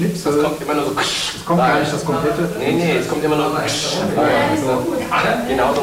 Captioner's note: ksssh